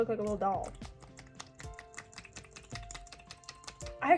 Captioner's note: wet sloshy noises continue